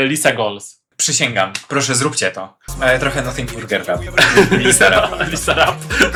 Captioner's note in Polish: śmiech